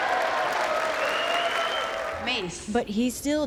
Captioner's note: cheering and applause